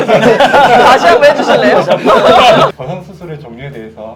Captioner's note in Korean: 웃음